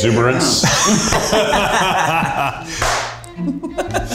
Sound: all laughing

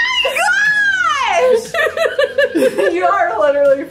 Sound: laughing

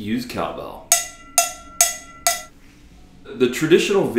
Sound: bell ringing

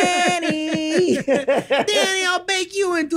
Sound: group laughs

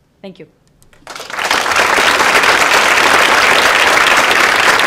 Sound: audience applauds

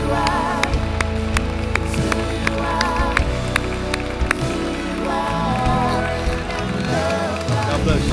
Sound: applause

